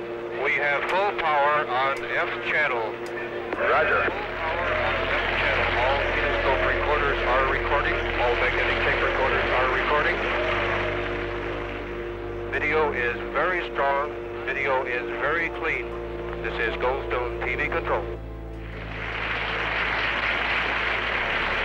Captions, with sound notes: We have full power on F channel. Full power on F channel. [people clapping] [people cheering] All kinoscope recorders are recording. All magnetic tape recorders are recording. Video is very strong. Video is very clean. This is Goldstone TV control. [people clapping]